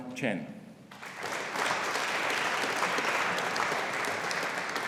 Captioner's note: audience applauding